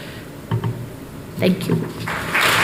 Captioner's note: applause